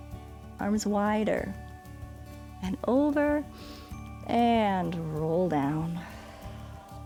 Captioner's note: exhales